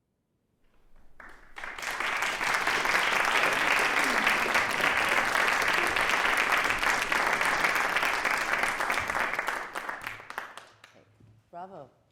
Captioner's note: audience clapping